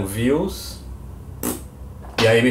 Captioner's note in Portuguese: ruído com a boca